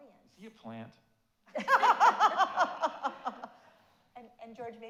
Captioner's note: audience laughs